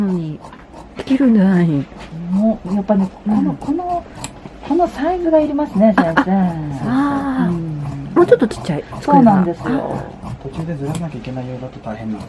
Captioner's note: chatting